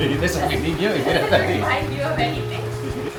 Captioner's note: in spanish